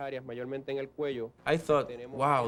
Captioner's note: speaking spanish